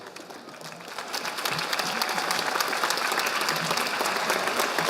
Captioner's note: audience applauding